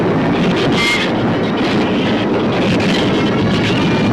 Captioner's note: shrews screech